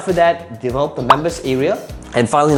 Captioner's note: bubble popping